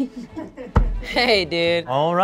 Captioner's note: everyone laughing